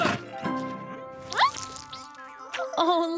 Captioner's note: grunting; slurp